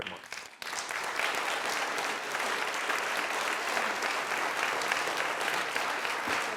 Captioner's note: applause